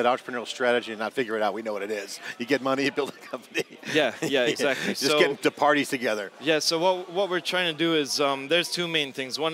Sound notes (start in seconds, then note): 3.0 laughs